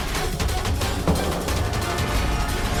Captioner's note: thuds